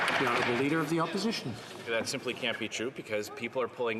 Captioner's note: some Applause